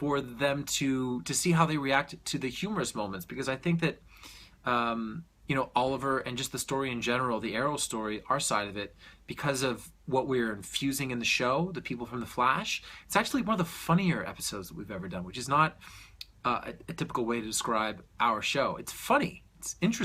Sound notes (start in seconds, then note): 4.0 deep breath